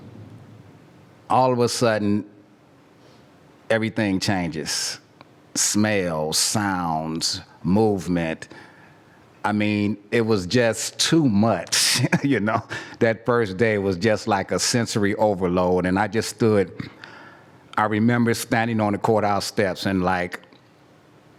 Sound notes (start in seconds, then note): 12.1 laugh